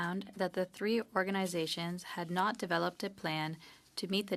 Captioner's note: speaking French